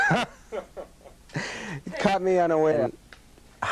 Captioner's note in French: rires